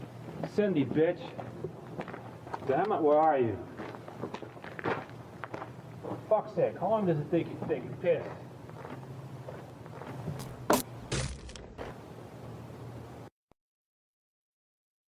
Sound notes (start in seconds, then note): 11.0 thud